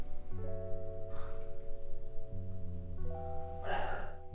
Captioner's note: grunts